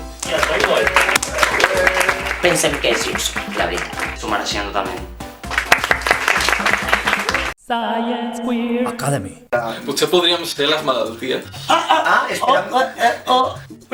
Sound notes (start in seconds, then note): 0.1 applause